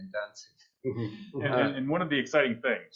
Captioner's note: chuckles